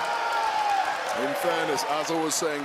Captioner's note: applause